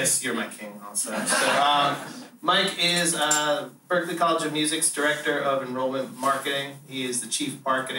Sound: laughter

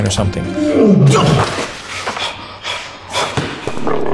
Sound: roar

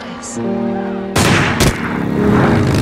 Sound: gunshot

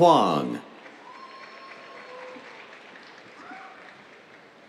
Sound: applause

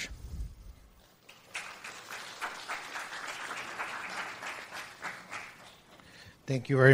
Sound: applause

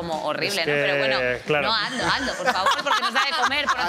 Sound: some laugh

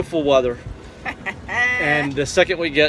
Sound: Barry's wife laughs

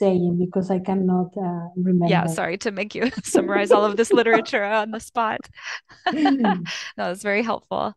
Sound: laughter

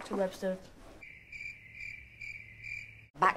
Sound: awkward silence; crickets

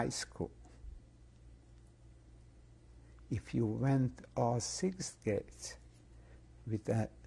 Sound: pauses for 3 seconds

